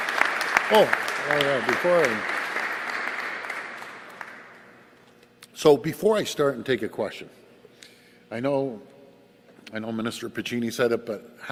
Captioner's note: applause